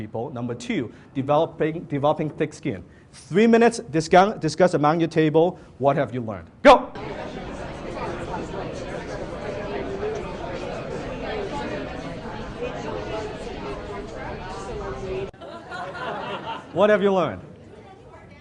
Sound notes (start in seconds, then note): 6.9 audience discusses amongst themselves; 15.3 audience laughs